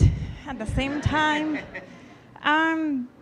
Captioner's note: audience laughing